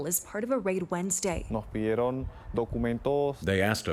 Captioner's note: speaking in spanish